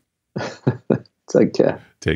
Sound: laughing

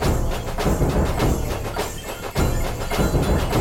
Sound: children cheering

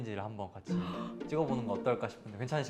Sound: deep breath in

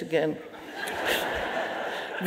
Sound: audience laughing

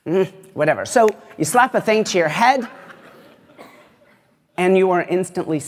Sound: laughter

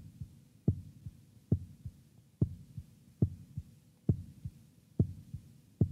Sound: heartbeat speeds up

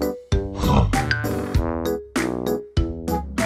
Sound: snorts

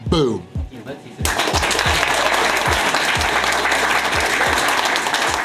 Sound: audience clapping and cheering

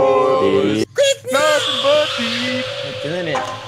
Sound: speaker turns on

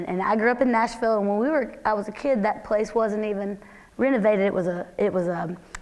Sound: none

